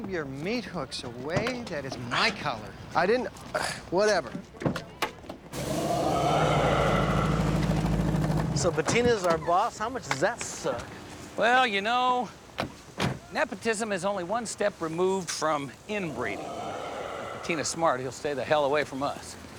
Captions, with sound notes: Cortez, keep your meat hooks away. That is my collar. I didn't... (scoffs) Whatever. (recording of deep growling plays) So, Bettina's our boss. How much does that suck? Well, you know, nepotism is only one step removed from inbreeding. If Bettina's smart, he'll stay the hell away from us.